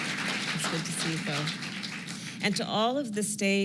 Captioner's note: applause